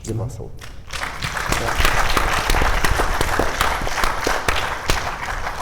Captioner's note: audience applauding